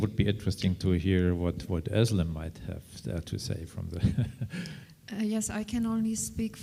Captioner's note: chuckles